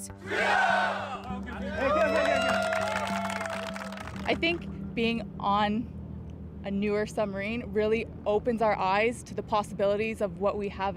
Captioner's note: cheers and Applause